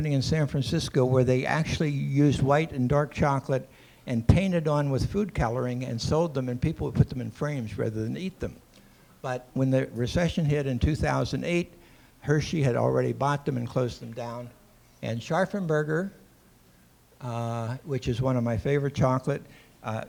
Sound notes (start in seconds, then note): none